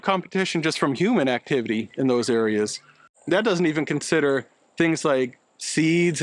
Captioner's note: foreign language 00:02:55